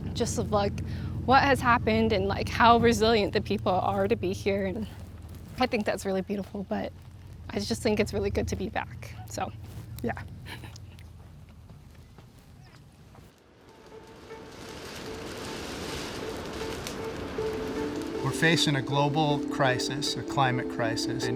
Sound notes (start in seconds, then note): 14.2 fire crackling; 14.2 ominous music